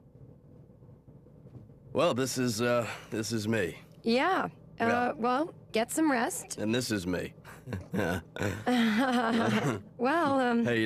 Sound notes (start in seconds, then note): 7.5 chuckling; 7.6 feigns laugh